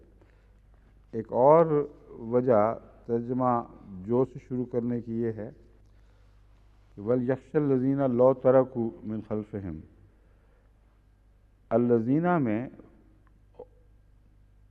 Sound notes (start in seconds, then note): 9.8 Arabic